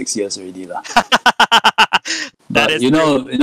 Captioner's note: laughs